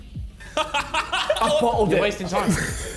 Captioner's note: Josh laughing